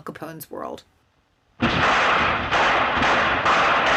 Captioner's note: gunshots